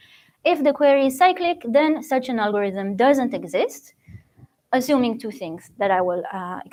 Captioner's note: none